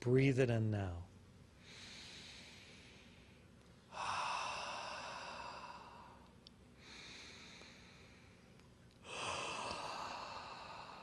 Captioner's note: inhales and exhales four times